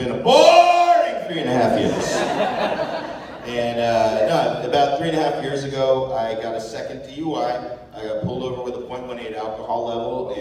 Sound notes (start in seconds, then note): 1.8 laughter